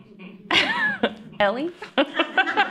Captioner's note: laughter